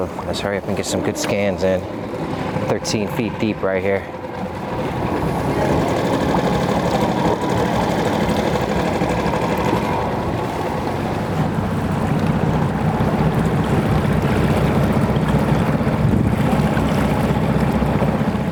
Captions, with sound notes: So let's hurry up and get some good scans in. 13 feet deep right here. (motor droning) (water lapping)